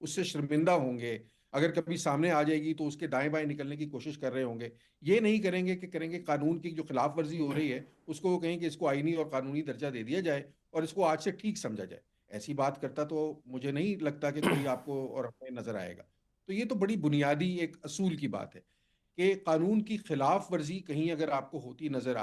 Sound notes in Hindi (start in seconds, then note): 14.4 गला साफ़ करने की आवाज़